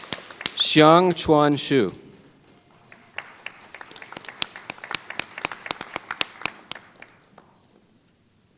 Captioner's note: applause